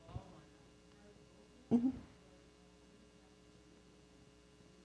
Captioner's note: murmurs